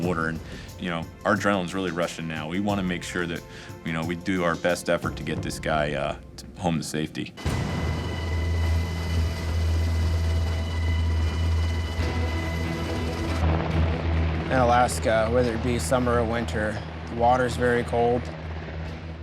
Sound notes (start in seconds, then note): 7.4 helicopter blades thumping